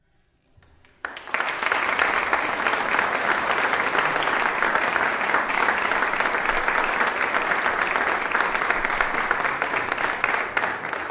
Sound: applause

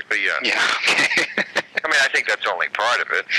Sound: laughing

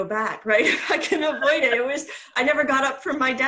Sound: laughs

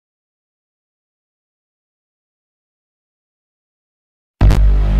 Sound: silence; 32-bit console startup music plays

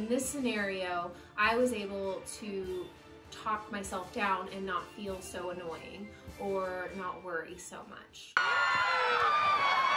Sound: applause

